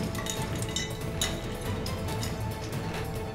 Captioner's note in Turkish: Kapı kilitleme sesi